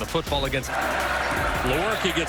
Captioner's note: cheering